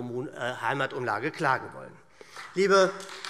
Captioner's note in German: Beifall SPD